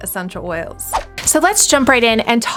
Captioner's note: whoosh